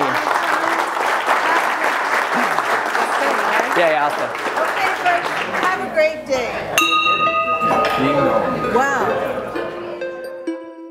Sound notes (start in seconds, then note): 6.8 bell chimes